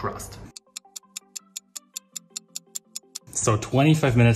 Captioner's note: clock ticking